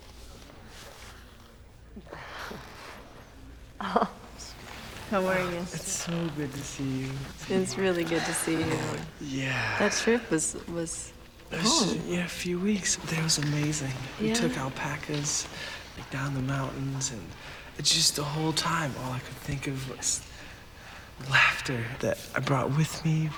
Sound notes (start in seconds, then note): 3.3 chuckles